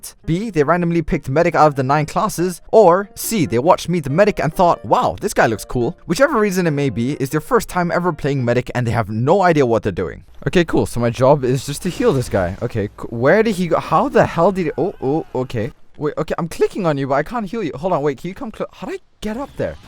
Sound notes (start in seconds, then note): 14.4 worried Medic noises